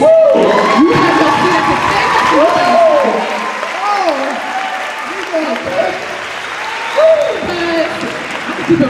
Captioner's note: cheering